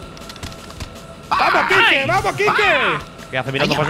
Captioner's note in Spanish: grita como un karateka